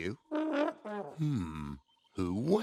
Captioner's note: honking